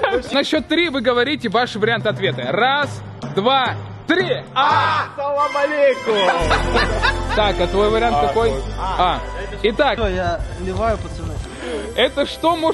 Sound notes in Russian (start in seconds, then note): 0.0 смеются; 6.1 угорают